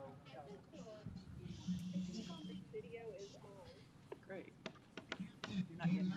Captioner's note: chattering